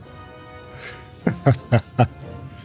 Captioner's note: laughing